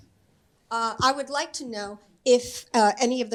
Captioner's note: on microphone